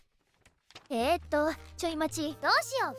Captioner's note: shuffling